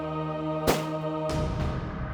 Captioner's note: gun shot